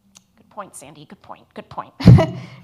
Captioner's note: laughs